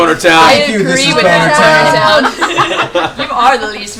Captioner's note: laughter